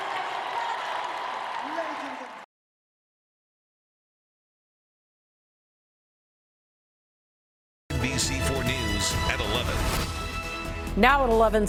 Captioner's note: cheers and applause